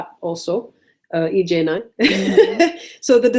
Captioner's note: laughs